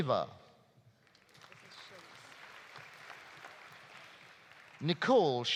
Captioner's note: audience applauding